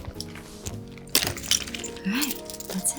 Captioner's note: objects clattering